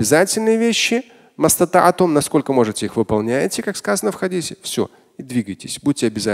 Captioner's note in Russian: Говорит на арабском